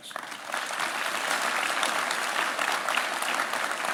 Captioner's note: applause